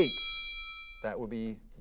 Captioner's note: timer dings